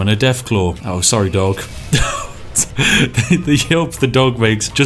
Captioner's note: apologetic Laughter